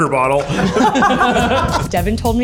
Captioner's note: all laugh